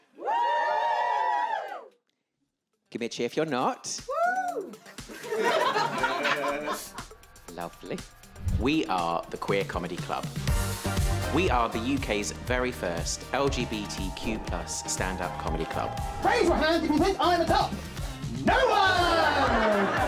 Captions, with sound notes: [audience cheers] Give me a cheer if you're not! [two people cheer] [audience laughs] Lovely. We are the Queer Comedy Club. We are the UK's very first LGBTQ+ stand up comedy club. Raise your hand if you think I■m a top. No one!